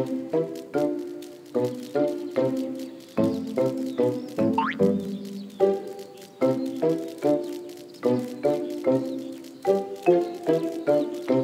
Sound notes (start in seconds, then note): 4.4 spring bounces